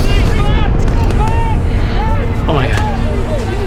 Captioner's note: yelling